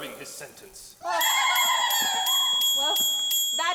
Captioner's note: girls tittering; dinging